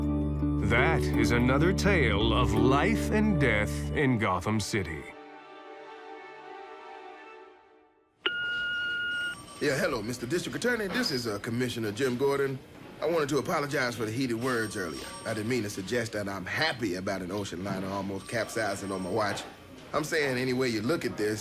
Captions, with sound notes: That is another tale of "Life and Death in Gotham City." [music fades] [voicemail beep] - Yeah, hello, Mr. District Attorney. This is Commissioner Jim Gordon. I wanted to apologize for the heated words earlier. I didn't mean to suggest that I'm happy about an ocean liner almost capsizing on my watch. I'm saying any way you look at this,